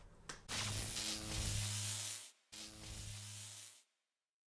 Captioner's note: buzzing